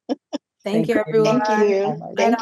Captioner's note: chuckles